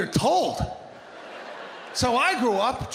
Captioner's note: audience laughing